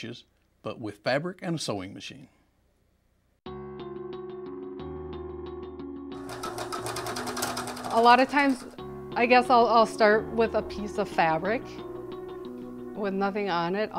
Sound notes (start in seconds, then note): 3.6 fast rhythmic music; 6.1 sewing machine rattling